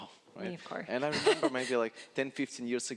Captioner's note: laughing